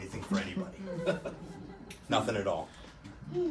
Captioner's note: scattered laughter